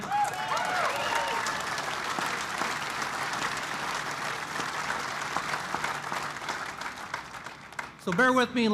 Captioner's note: applause